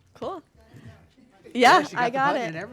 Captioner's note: board member speaking off microphone